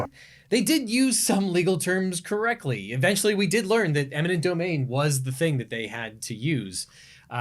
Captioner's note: none